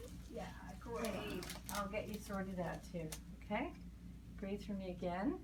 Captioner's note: groans